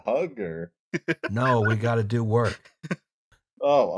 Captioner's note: laughter